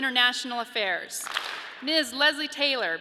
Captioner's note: audience claps